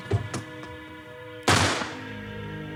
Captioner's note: gunshot; suspenseful music